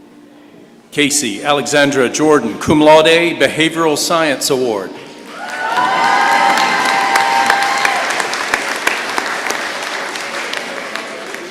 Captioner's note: applause